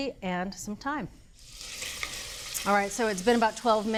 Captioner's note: pan sizzling